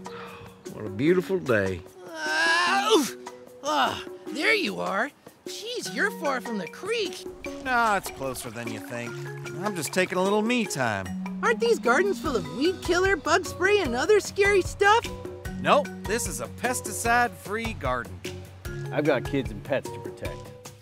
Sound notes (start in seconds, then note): 2.0 yells